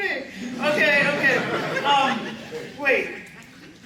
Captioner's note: laughter